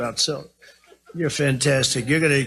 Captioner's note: laugh